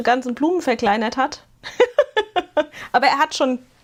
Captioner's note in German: gelächter